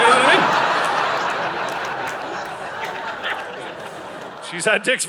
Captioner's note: audience laughing